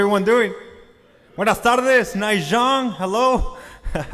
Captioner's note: speaks foreign language; laughs